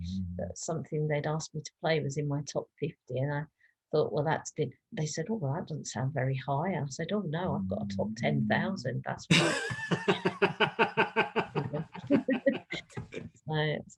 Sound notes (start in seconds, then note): 9.3 both laugh